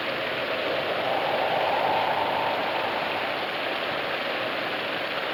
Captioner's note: wind blowing